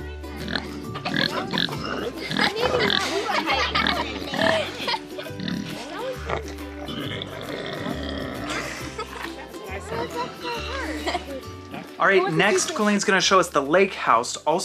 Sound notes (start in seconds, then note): 1.0 pig oinking; 2.7 laughs; 2.7 pig oinking; 7.4 light upbeat music; 8.6 laughs